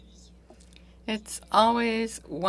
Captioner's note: speaking French